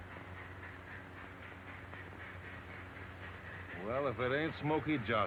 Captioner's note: train chugging